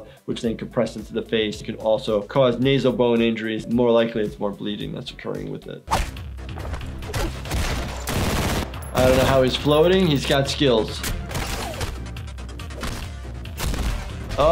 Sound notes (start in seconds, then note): 6.6 fist thumps smashing; 7.1 gun shooting; 11.4 body thumps smashing